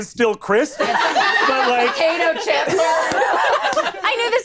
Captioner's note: all laughing